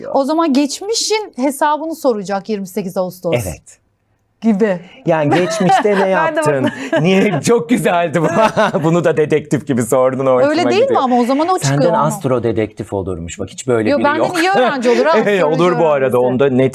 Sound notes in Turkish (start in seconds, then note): 5.2 kahkaha